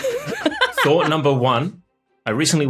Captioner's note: laughs